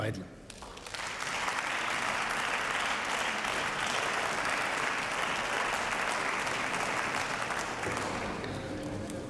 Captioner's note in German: Beifall